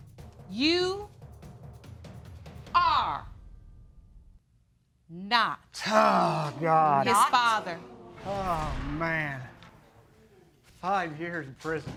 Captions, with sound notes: You... Are... Not his father. Oh, God! (AUDIENCE GASP) Oh, man! Five years in prison.